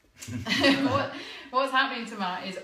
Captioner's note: laughter